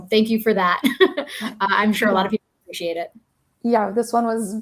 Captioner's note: chuckles